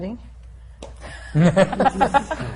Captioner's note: laughter